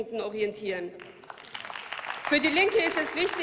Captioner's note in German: Beifall